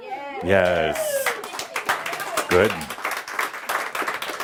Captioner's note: some applause